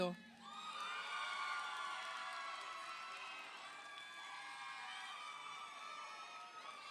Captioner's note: audience applauds; audience cheers